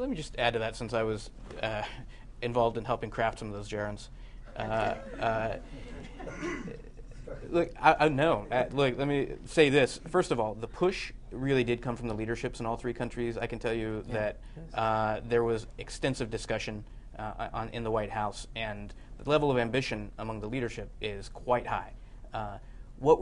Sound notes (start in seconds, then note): 6.0 laughter